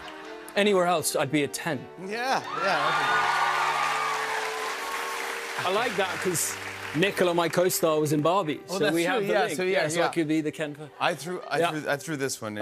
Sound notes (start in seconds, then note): 2.3 cheers and applause